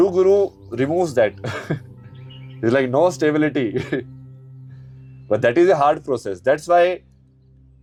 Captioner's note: हंसी